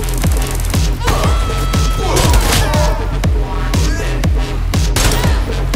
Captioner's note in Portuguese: gritos